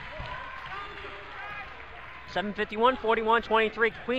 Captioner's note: crowd cheers